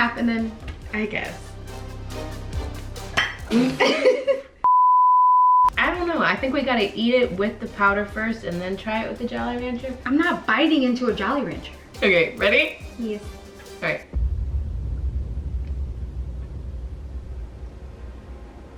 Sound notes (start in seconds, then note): 3.5 laughing; 4.6 beeping noise; 14.7 dramatic music